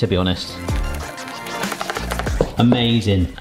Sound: upbeat music; whisk beating

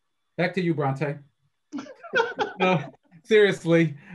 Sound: all laugh

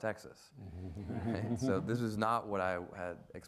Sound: audience laughs

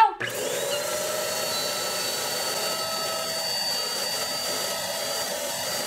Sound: high pressure air blowing

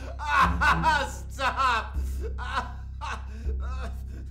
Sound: cries out

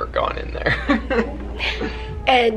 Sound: chuckling

